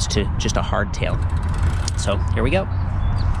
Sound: bike rattling

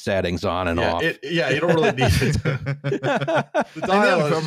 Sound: laughter

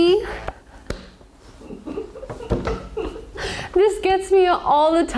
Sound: image pops; crew member laughs

